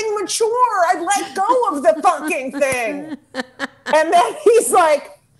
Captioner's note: laughing